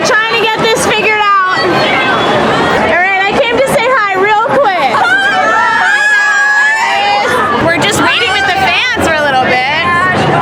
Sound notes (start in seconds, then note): 5.3 crowd